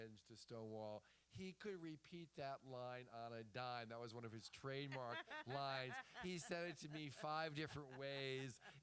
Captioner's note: laughter